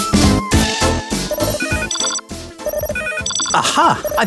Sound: phone ringing

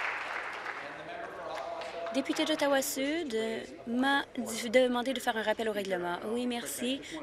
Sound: applause

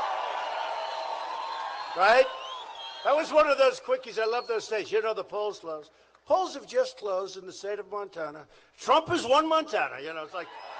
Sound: applause

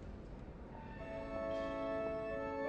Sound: none

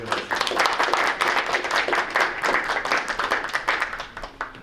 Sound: group applauding

